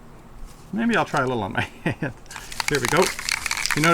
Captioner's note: chuckles